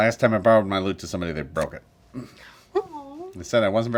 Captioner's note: cries of commiseration